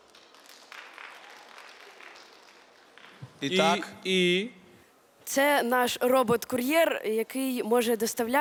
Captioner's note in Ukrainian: оплески